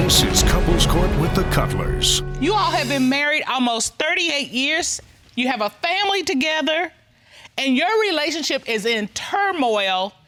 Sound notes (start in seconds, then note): none